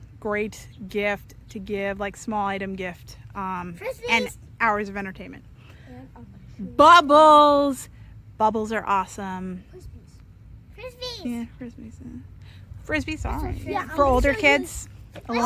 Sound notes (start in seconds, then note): none